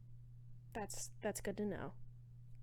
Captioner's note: none